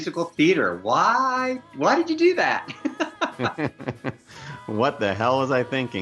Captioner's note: laughs